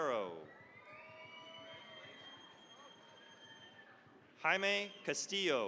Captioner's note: cheering, applause